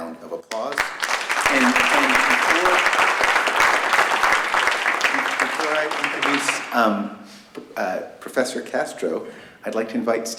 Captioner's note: applause